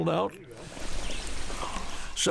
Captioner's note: running water, birdsong